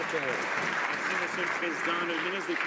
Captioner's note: some Applause